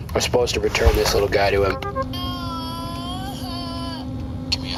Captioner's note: whining